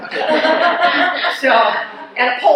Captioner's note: laughs